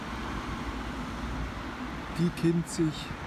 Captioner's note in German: Straßenlärm hörbar